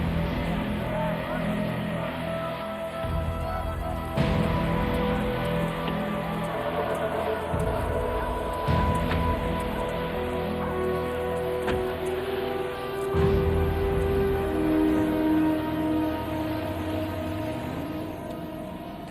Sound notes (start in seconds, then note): 1.0 dramatic music; 9.2 door thuds